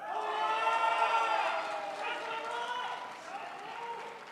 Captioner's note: crowd applauds